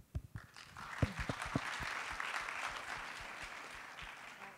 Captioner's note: audience applauding